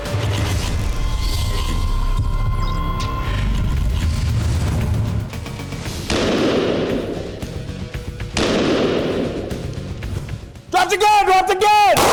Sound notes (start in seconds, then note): 0.1 mechanical whirring; 6.1 gunshots